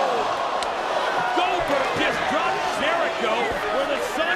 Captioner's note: applause